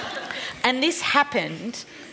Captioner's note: laughter